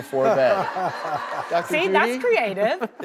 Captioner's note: laughter